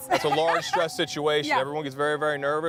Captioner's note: laughs